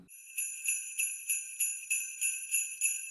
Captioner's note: sleigh bells